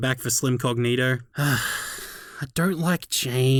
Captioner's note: sighs in Bogan